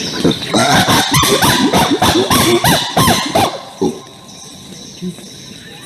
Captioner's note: forest sounds; chimp vocalizations; forest sounds